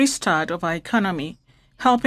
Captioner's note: speaking French